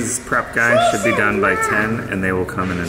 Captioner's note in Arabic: الطفل يغمغم خارج الشاشة